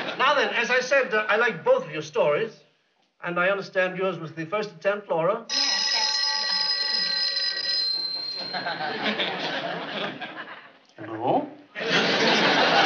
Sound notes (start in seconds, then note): 5.5 phone ringing